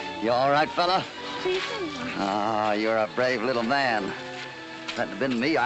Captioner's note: evocative music; in spanish